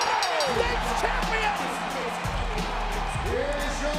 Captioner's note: crowd cheering; upbeat music